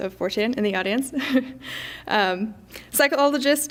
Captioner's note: laughs